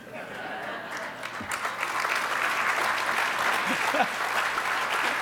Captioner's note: audience applause